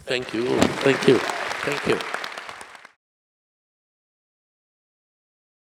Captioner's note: audience applauding